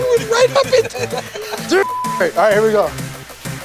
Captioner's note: laughter